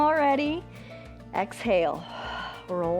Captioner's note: exhales